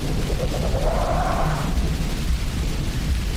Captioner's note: creature growls in the distance